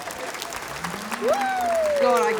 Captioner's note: applause